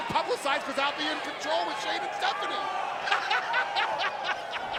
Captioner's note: laughs